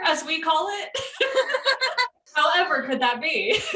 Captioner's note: laughter